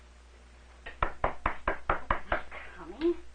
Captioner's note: knocking at door